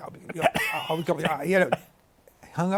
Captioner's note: stammering